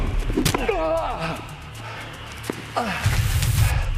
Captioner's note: Shepherd groans